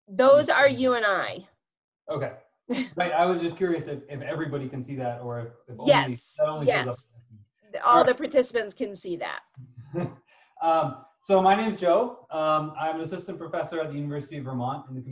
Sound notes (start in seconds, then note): 9.8 chuckles